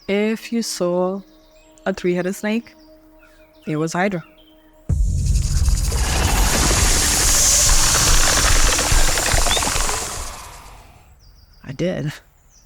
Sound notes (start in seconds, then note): 4.9 snake rattles; 5.0 snake hisses